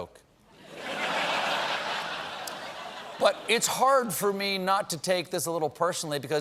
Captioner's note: laughter